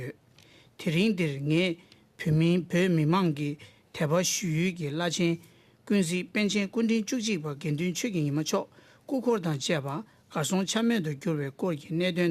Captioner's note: speaking Alternate Language